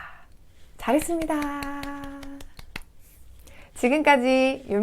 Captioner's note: clap clap clap